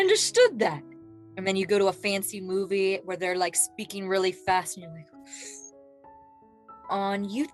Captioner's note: taking a breath in as if to focus/concentrate